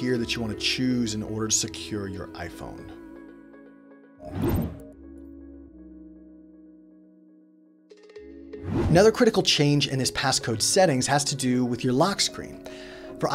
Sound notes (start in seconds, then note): 3.3 gentle music; 4.2 whooshing; 6.2 gentle music